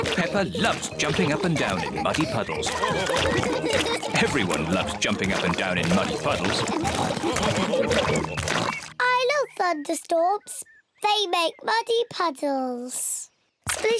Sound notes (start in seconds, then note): 2.9 all laugh; 8.4 oinks